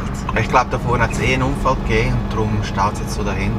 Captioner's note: in Swiss German